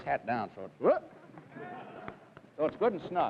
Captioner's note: audience laughs